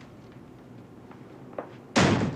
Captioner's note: slam